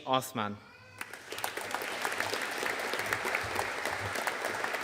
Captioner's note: audience applauding